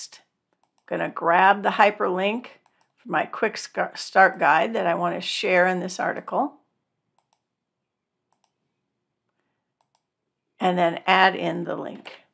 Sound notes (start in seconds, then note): 7.8 clicking